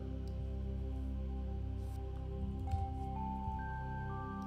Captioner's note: gentle music; mouse clicking